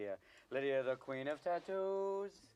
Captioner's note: none